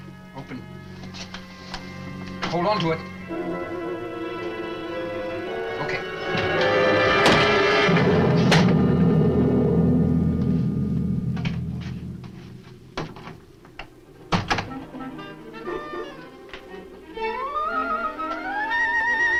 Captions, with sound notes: Open it. Hold on to it! Okay. (door closes) (suspenseful orchestral music)